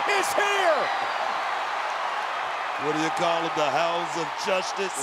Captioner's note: applause